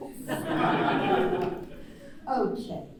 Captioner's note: laughter